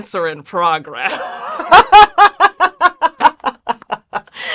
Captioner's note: both laugh